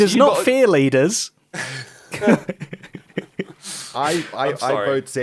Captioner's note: laughs